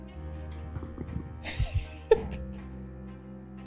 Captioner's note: laughs